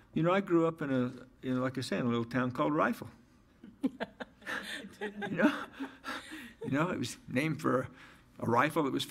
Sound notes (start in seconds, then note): 4.0 audience laughs